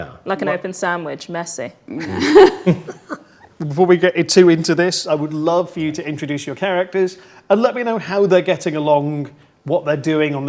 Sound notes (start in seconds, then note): 1.9 group laughs